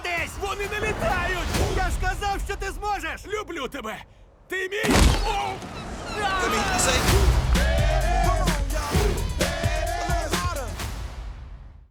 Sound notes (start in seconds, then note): 4.8 screams; 6.2 hip-hop plays